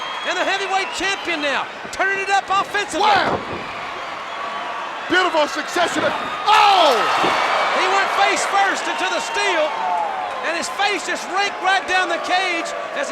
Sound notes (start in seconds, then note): 3.7 crowd cheering; 6.4 Paul exclaiming; 6.6 fence clanging